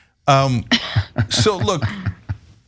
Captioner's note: laugh